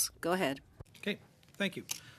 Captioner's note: speaking French